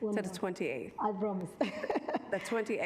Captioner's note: laughs